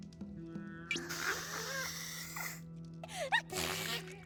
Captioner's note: sniffs